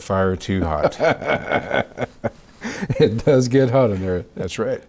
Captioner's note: still laughing